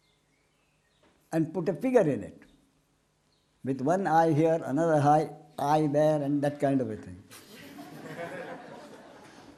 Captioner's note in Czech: smích